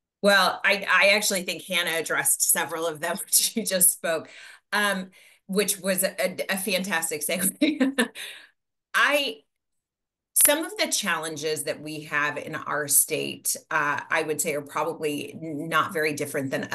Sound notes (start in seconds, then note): 0.0 audio cuts; 7.4 chuckles